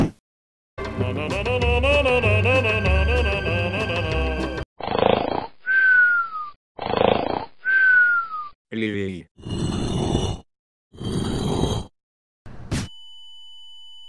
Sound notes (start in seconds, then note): 4.6 snoring